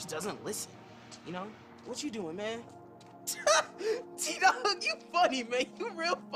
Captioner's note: laughs